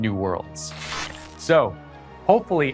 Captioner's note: screeching